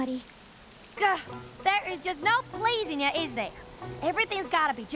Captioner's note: sighs